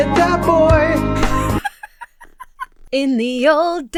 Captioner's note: Emma laughs